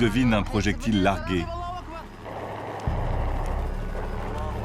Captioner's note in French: Audio parlé en arabe